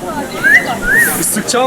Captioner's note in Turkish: Islık çalar